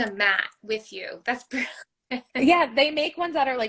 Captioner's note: laugh